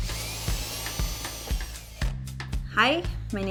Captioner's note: drilling